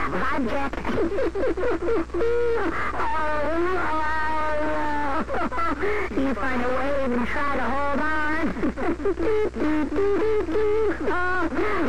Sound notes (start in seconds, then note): 2.9 hijacker laughs; 7.5 laughs